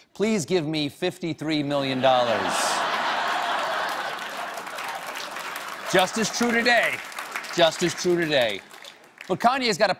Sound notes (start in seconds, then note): 1.9 laughter; 2.8 applause